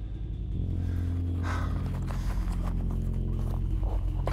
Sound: heavy breathing

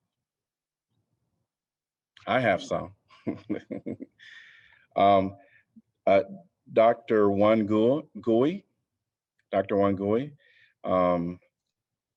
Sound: laughter

